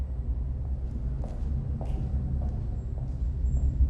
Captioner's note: footsteps